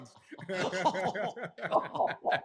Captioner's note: laughter